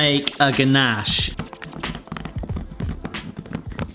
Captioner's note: chocolate crunching